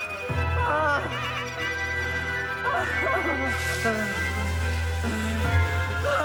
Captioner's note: gasps; Roslyn gasping over ghostly voices chattering